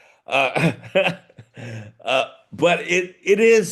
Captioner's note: laughing